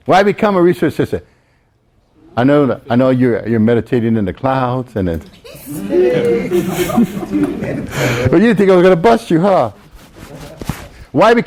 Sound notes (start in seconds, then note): 5.5 everyone laughs